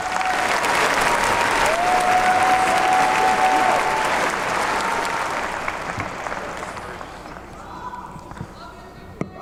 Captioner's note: applause